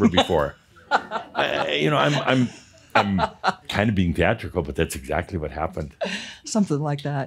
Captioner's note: she laughs